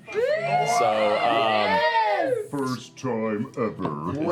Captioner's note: cheering